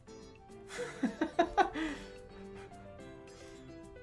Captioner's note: laughing